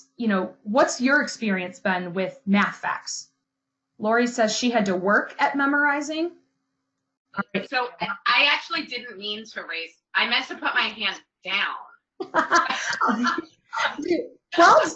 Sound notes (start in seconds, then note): 12.2 laughter